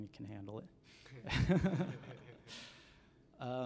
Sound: laughter

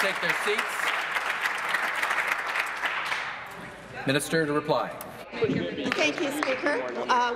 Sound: applause

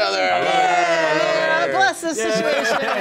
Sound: cheers

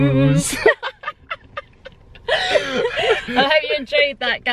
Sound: laughter

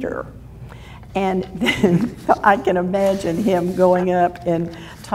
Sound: laughs

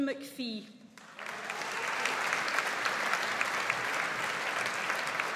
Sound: audience applauds

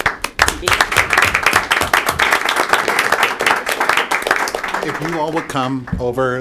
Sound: applause

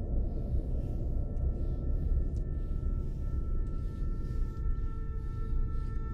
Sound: dark music; both breathe heavily

